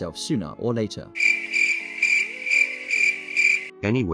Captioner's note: crickets Chirping